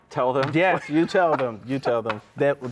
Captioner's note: laughs